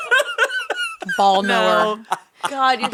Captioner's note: laughing